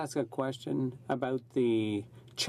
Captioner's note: speaking French